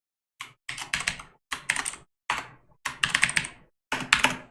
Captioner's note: types key board